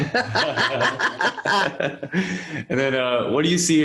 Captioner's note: laughs